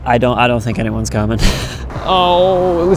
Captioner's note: laughs